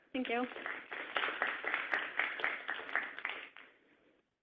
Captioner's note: applause